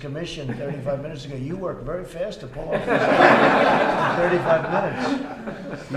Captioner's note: laughter